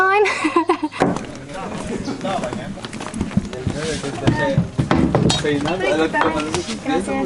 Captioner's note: laughs